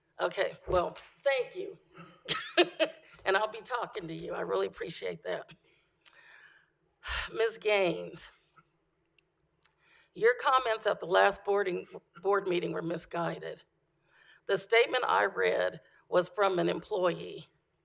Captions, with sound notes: Okay, well, thank you (laughter) and I'll be talking to you. I really appreciate that. (sigh) Mrs. Gaines, your comments at the last boarding, Board meeting were misguided. The statement I read was from an employee.